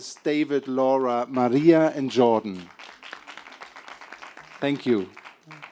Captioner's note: applause